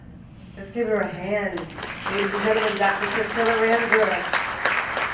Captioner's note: applause